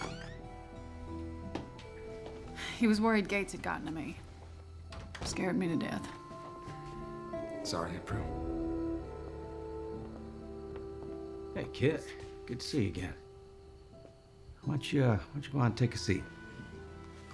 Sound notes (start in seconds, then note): 4.3 door closes